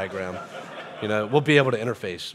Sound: audience laughing

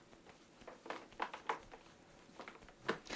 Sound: quiet stroking

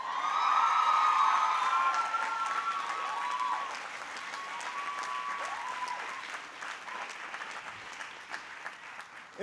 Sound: applause

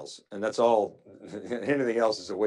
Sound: chuckles

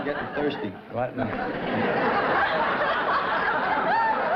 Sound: laughter

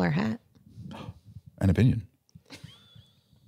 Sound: gasps

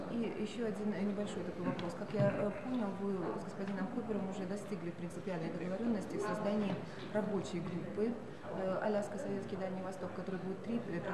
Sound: non-english speech

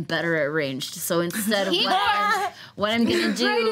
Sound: laughter

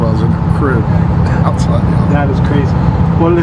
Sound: laughs

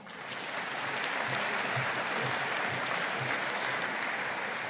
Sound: audience applauding

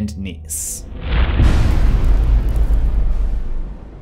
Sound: impact

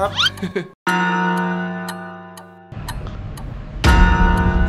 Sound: chuckles; clock chiming; tense music builds

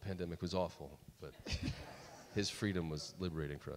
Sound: audience laughs

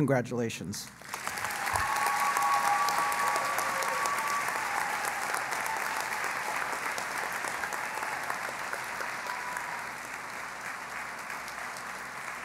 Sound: cheering and Applause

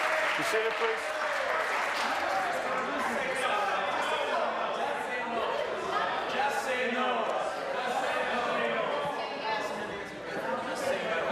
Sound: cheers/applause

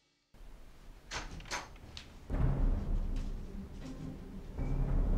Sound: door opens

